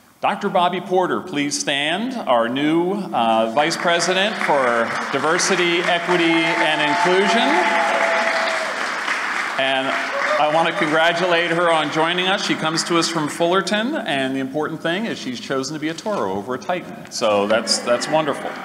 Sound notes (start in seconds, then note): 7.4 applause & Cheering